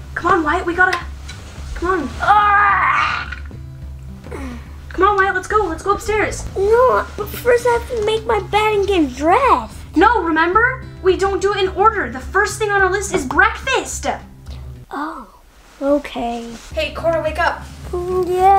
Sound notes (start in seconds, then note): 1.7 groans